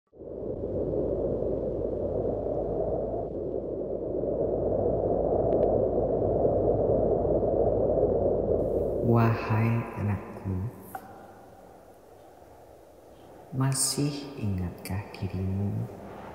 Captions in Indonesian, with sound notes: [suara angin] -Wahai, Anakku. Masih ingatkah dirimu,